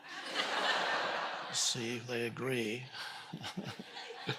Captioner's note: audience laughing